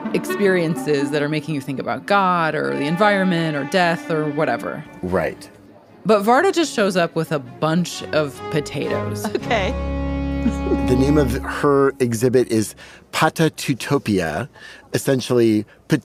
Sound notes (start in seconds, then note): 10.4 laughs